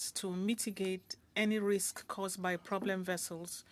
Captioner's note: speaking French